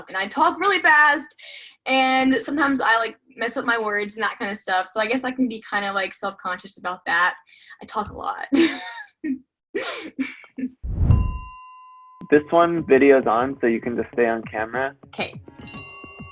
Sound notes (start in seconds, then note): 9.4 laughs; 11.1 bell dings